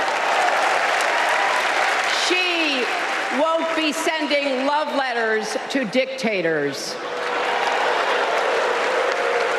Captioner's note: applause